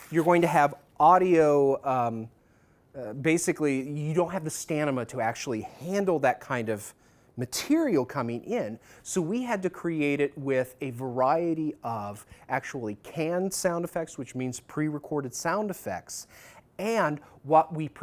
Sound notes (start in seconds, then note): none